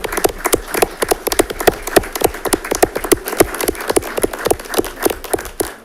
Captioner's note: audience applauds